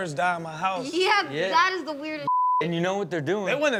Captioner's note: beep